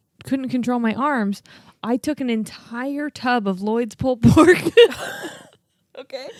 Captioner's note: laughs